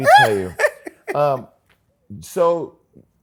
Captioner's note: laughs